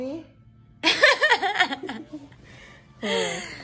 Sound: laughs

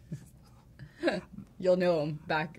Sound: giggling

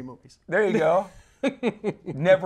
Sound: laughs

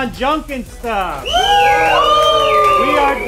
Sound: cheers

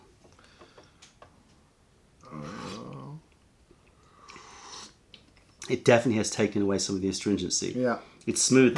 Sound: sips tea

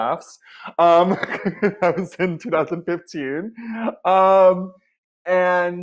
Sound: laughs

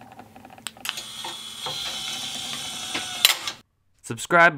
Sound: mechanical sound

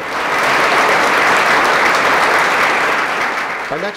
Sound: applause

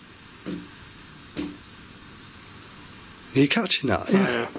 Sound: soft knocking

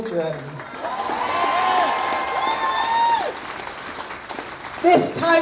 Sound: audience cheers

